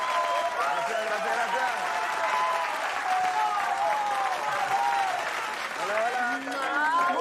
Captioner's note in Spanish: Aplausos